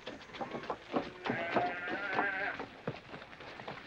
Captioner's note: cattle mooing